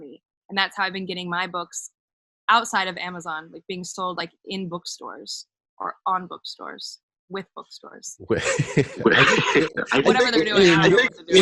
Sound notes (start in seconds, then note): 8.2 laughs